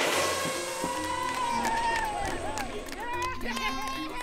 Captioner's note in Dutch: gejuich